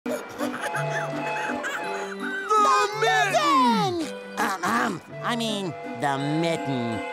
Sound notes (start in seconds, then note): 0.1 laughing; 4.4 clearing throat